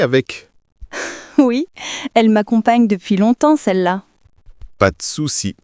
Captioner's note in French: rire